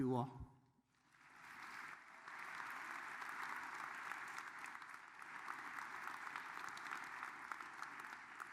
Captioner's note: applause